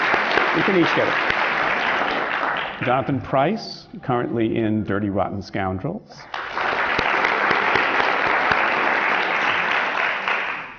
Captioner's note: applause; applause